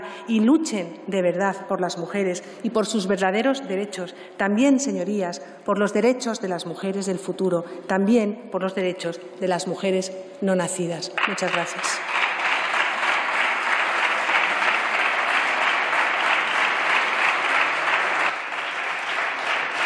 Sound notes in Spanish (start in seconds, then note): 16.8 Aplausos